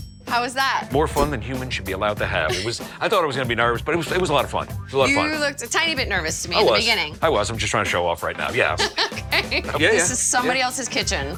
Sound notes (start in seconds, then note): 8.8 laughing